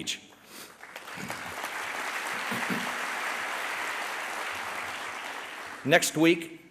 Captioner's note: applause